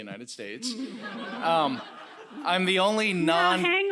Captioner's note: laughter